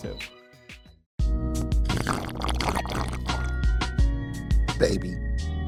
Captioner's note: slurping Drink